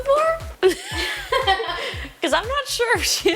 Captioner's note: people laughing